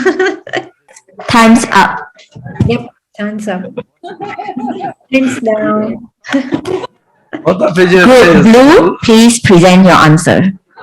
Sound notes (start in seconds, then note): 0.0 laughs; 3.6 indistinct laughter; 7.3 indistinct laughter